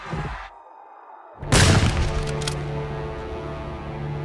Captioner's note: muffled rock music; people screaming; gun firing; soft tense orchestral music